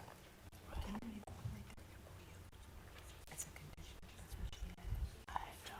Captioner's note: board chatting quietly